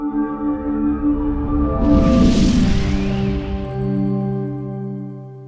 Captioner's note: upbeat swooshing sound